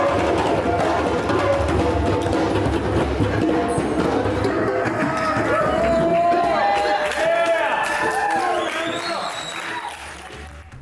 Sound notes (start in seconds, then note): 5.8 crowd cheering